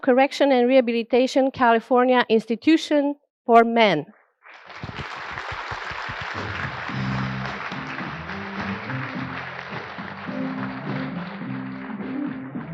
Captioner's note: applause